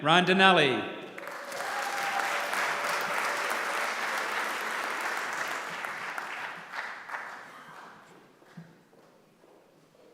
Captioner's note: applause